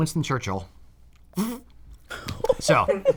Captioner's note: blows raspberry